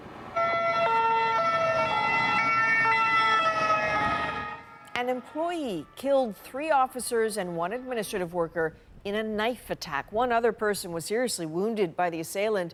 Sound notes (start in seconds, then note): 0.2 sirens